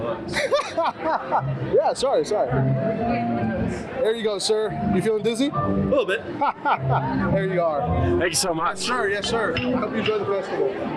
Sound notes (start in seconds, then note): 0.3 laughs; 5.9 laughs